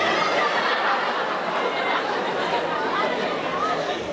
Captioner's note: audience laughing